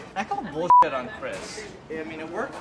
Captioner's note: beeping